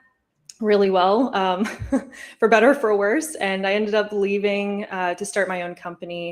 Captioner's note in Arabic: ضحك